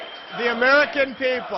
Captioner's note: applause